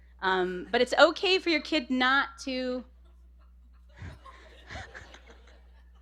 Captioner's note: laughter